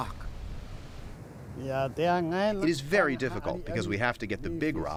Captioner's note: through translator